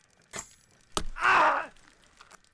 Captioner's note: oscar yells